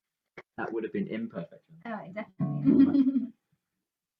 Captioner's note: laughter